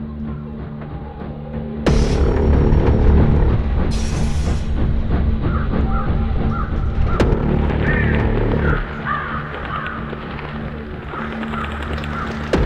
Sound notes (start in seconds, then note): 6.1 cawing birds in the distance